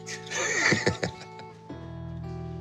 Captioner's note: laughs